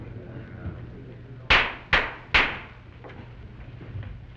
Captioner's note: gavel banging